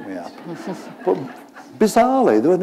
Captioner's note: laughter